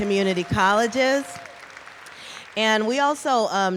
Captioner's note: applause